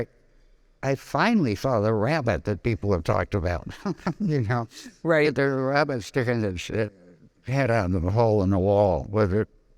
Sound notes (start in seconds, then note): 3.6 laughing